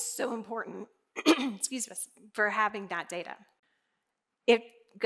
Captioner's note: clears throat